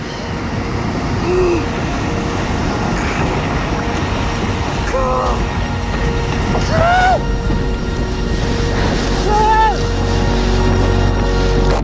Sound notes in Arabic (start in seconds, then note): 4.8 صوت رجال على الشاطئ يصرخون وهم يركضون من موجة قادمة